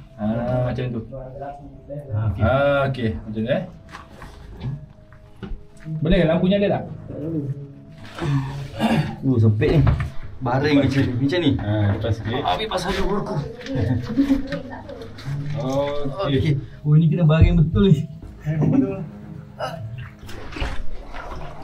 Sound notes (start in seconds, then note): 12.9 laugh